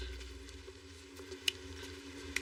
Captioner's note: snaps finingers